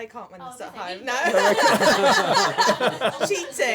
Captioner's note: laughter